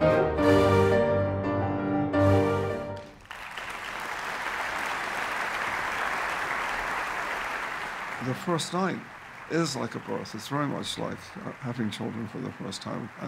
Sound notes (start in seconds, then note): 0.0 orchestra playing; 2.9 clapping